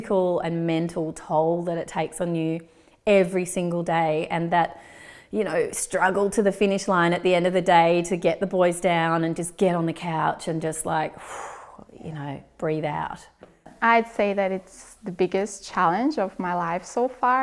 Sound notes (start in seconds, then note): 11.2 loud exhale